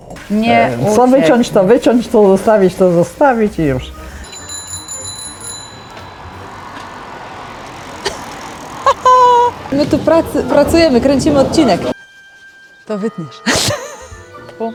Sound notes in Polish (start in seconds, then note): 4.2 dzwonek od roweru; 4.3 haha